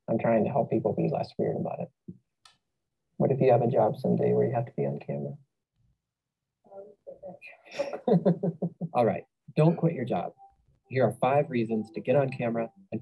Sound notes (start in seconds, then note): 7.7 laughter